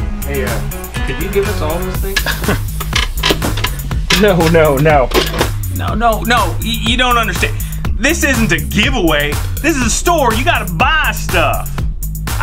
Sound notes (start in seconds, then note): 2.2 laughing